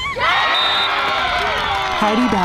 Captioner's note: crown cheers louder with more excitement; whistle blows